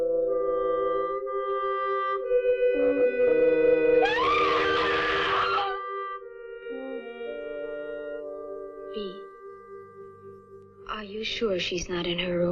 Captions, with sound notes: (ANITA SCREAMS) Bea, are you sure she's not in her room?